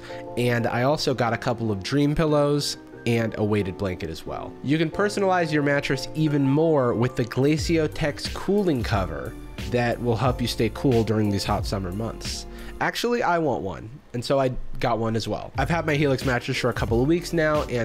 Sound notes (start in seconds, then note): none